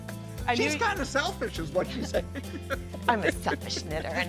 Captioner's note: laughing